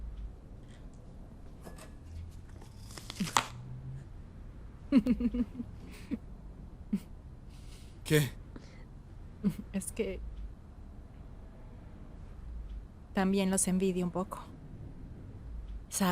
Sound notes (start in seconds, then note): 4.9 risas